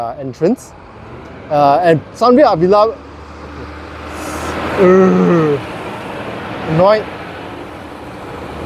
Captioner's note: concrete mixer truck passing